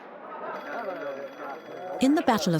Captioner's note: phone rings